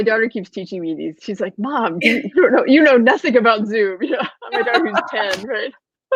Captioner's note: laughing